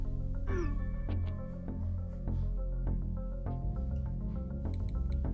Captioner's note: message notifications whooshing